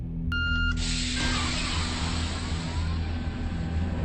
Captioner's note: door hissing